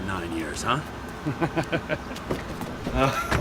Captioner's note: laughs